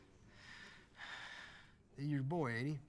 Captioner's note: Bottles sighs